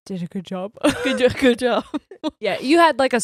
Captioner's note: laughs; laughing